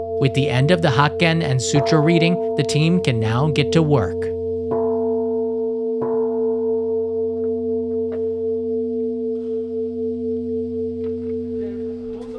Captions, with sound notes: With the end of the hakken and sutra reading, the team can now get to work. [bell tolling]